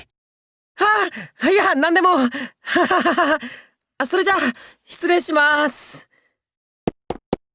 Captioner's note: awkward laugh